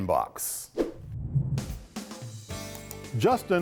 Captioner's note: graphics whoosh